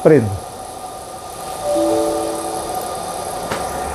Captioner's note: Windows noise; printer machine noise